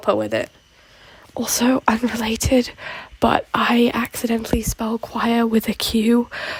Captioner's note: whispering